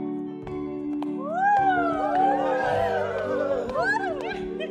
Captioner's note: cheering